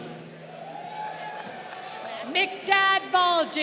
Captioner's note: crowd cheering